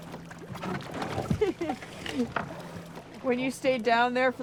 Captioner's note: laughter